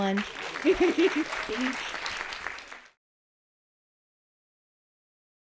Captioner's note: audience applauding